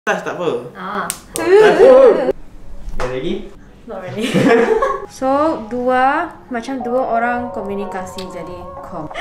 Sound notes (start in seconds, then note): 4.7 laughs